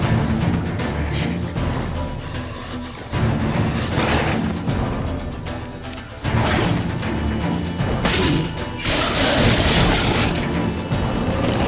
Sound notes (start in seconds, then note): 4.8 snarl; 7.0 snarl